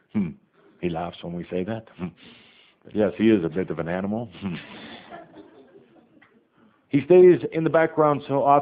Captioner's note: some laughter